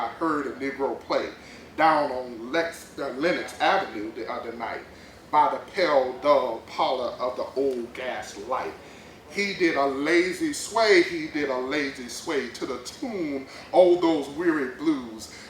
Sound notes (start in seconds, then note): none